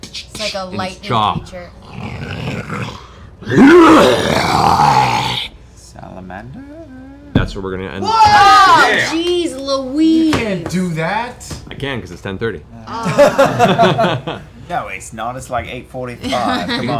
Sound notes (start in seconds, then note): 0.0 snarls; 0.0 sparking noises; 3.4 growls, roars; 8.9 yelling